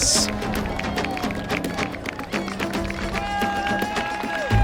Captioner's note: crowd cheering and applauding